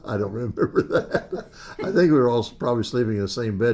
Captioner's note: laughs